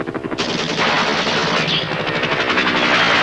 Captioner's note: gunfire